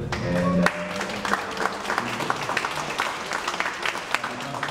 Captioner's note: audience applauds